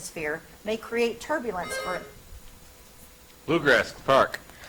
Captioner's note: buzzer chimes